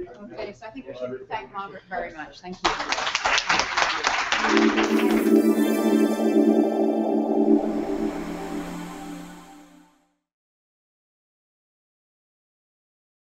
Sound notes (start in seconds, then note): 2.6 applause